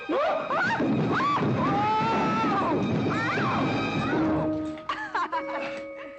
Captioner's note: tumbling down stairs; giggling